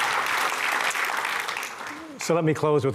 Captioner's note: applause